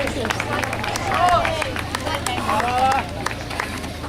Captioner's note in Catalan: Aplaudiments